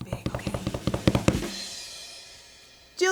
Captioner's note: tapping on the table